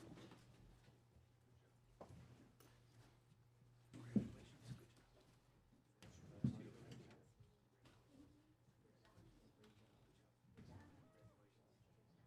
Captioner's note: away from microphone